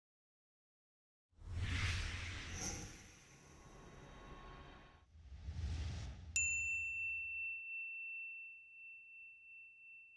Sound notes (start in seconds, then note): 1.6 air whooshing; 6.4 bell dings